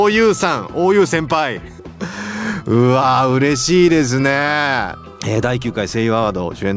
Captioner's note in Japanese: 笑い